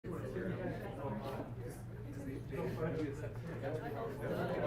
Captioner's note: students murmuring